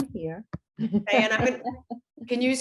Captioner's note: laughs